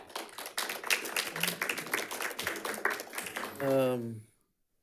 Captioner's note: audience clapping